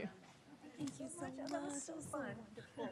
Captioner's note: chatter